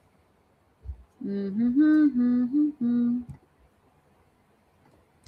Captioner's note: humming